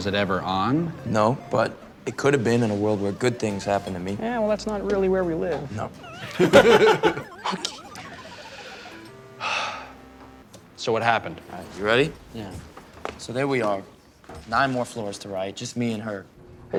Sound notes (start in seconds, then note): 10.0 sighs